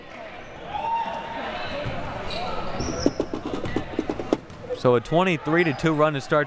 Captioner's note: audience chattering and yelling